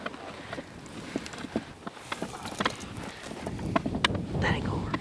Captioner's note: equipment rattling